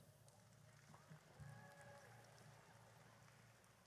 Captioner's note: audience cheers